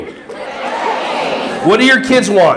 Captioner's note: audience laughing